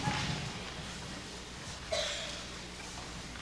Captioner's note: cough